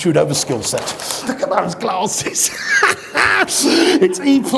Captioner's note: loudly laughing